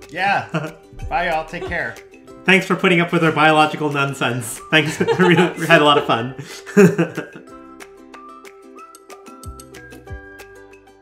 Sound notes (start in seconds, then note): 4.8 chuckling; 7.8 playful music